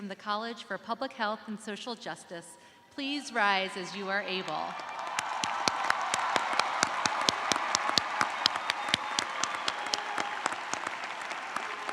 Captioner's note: cheers and applause